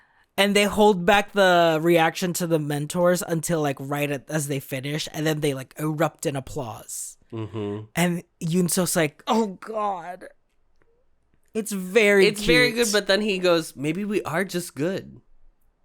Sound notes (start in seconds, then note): 9.1 despairing